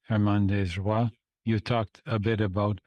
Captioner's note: speaking French